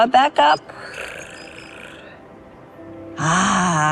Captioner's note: growling